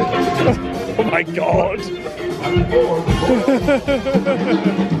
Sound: laughs; upbeat celebratory music

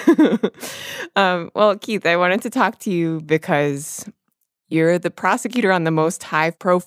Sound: laughs

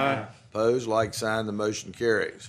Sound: chorus of ayes

